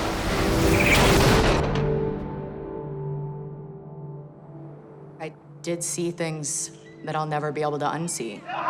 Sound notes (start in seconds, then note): 0.0 exploding; 8.3 urgent talking in foreign language